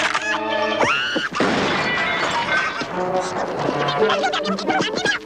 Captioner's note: rifle cocks; gremlin screaming; loud bang